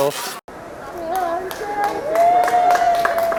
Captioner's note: cheers, applause